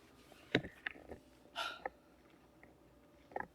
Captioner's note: sigh